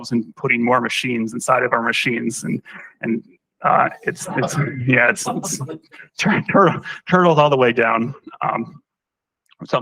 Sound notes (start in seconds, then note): 4.1 laughter